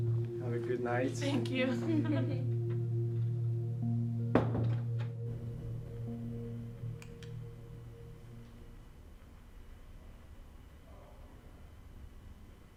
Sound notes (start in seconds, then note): 4.4 door closes; 7.0 light switch clicks off